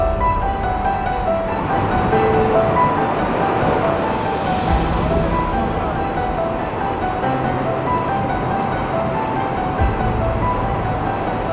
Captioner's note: heavy rain, wind blowing; suspenseful music